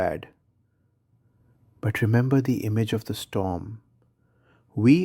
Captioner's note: pause; whispers